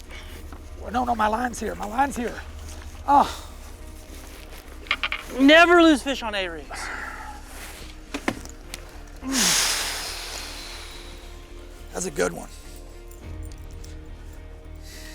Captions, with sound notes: Well, no, no, my line's here, my line's here. Oh! - Never lose fish on A rigs. (men sigh) - That was a good one.